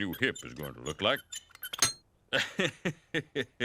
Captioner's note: metal squeaking; laughs